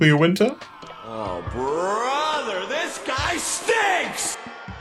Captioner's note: echoing